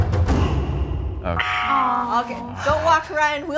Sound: buzzer buzzes

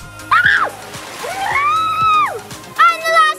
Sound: shouts

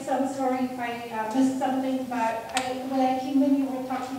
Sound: murmuring

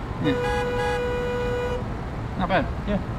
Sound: car horns honking

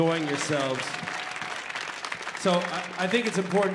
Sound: audience applauds

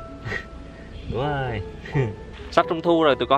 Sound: chuckling

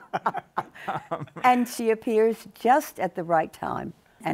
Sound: all laughing

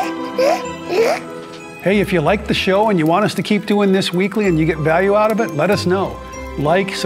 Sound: Whiskers grunts

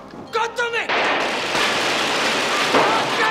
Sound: gun firing

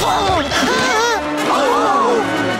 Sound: screaming; gasps

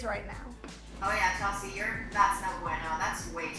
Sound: speaks in foreign language

